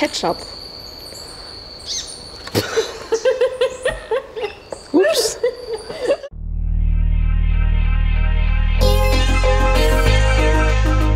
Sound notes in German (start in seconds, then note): 2.5 lacht